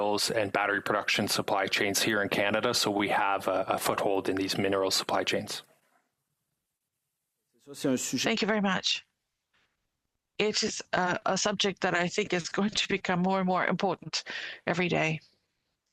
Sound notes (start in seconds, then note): 11.1 speaking French